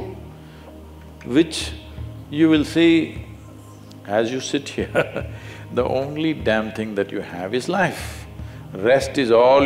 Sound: laughs

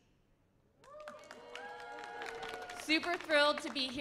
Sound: audience cheers

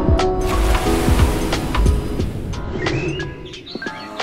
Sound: water splashing; birds tweeting

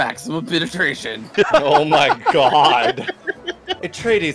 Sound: laughter

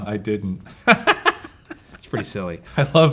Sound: laughing

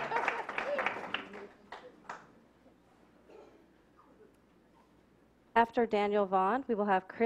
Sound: clapping

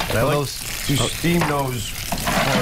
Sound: sizzling

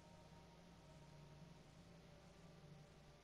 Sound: none

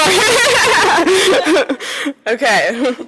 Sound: laughing

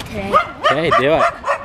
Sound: dog barking

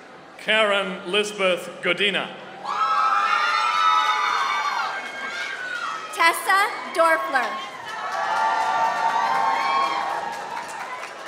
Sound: applause

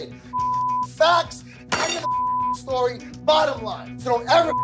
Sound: beep; beep; beep

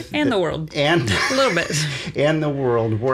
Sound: laughs

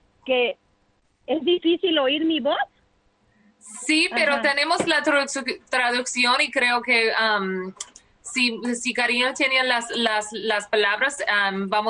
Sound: speaking spanish

